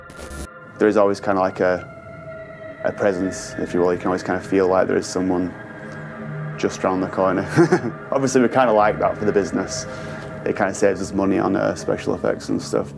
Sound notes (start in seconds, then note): 7.3 laughs